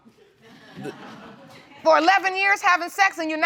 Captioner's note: audience laughs